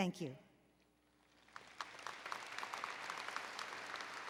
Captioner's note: applause